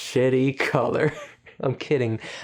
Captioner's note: laughing